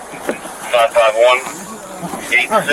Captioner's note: radio chatter